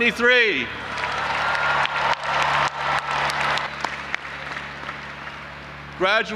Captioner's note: audience applauding and cheering